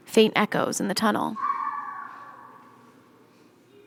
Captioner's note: child screeching